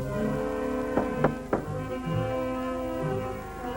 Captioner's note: knocking